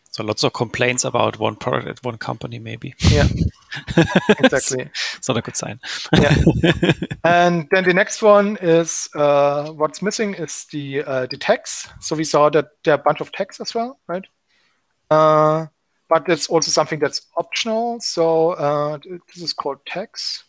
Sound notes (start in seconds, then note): 3.7 giggling